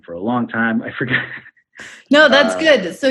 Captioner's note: laughs